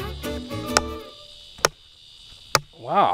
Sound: hammer clacking

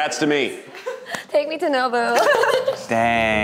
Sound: laugh

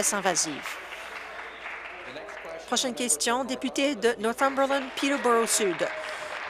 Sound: applause

